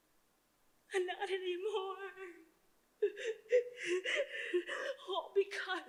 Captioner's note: cries